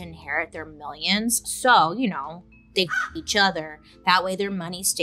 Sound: bird caws

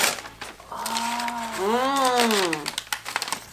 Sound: pleased noises

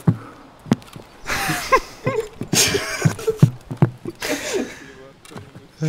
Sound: manly giggling

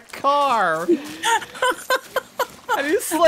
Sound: laughs

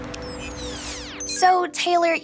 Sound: screen squeals

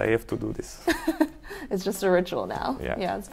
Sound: laughs

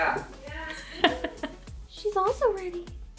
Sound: laughing

